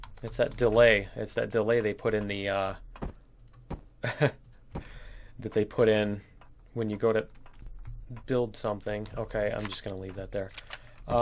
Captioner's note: laughs